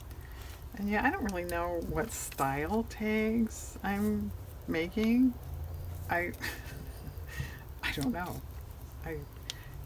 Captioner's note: laughs